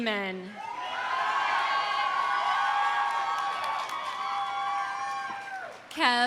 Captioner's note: audience cheering; audience applauding